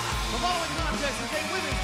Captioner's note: bell ringing